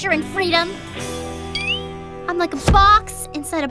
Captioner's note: none